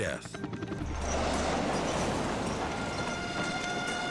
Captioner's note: balloon whooshing; dramatic music